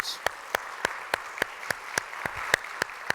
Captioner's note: applause